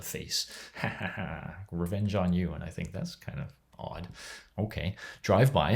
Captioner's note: laughs